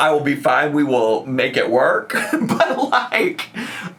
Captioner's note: laughs